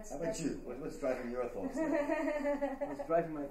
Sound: laughter

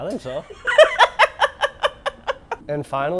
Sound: laughs

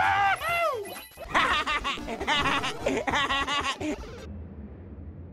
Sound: Luigi Laughs

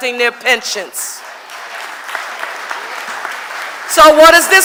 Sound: audience applauding

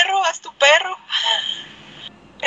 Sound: gasp

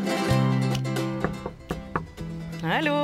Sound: door knocking

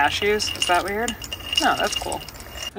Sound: cashews clinking

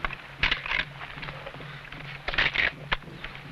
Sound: rifle cocking

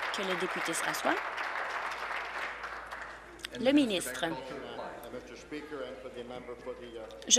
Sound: applause

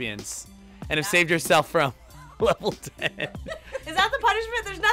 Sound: chuckles

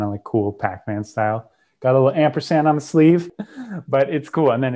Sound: chuckles

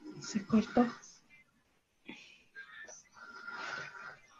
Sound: speaks Spanish

